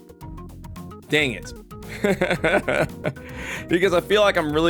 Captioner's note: laughs